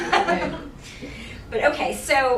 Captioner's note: laughing